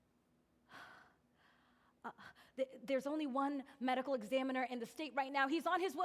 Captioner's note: exhaling